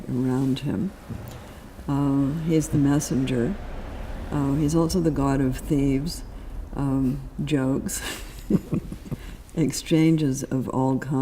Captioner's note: laughs